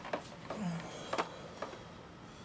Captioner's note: grunt